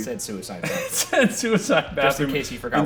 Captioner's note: Shane laughing